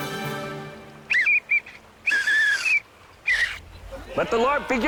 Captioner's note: pathetic Whistle Blow